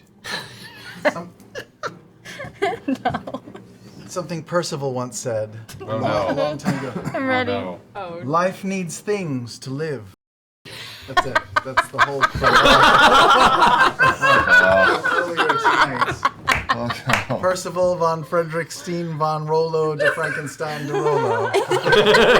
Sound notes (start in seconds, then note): 1.6 laughing; 12.6 all laugh